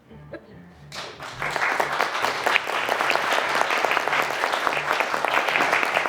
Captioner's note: audience applauding